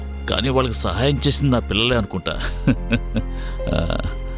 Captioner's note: laughs